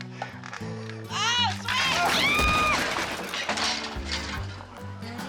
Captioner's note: woman screaming